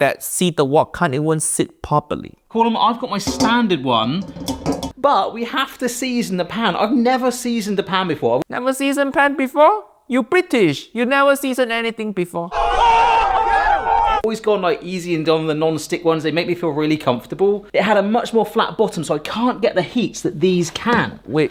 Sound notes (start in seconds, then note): 3.2 wok clatters; 12.5 people cheering